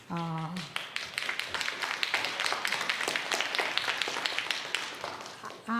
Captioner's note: audience applauds